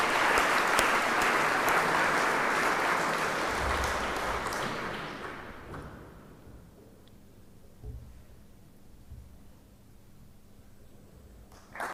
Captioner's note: applause